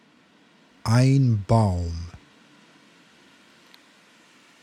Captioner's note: german